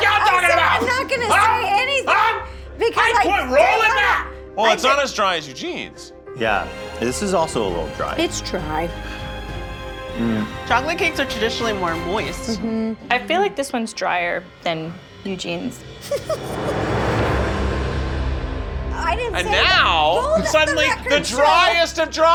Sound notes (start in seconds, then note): 10.2 sighs; 16.0 laughing